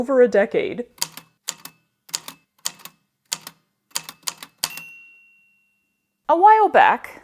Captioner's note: A typewriter clicks away, then dings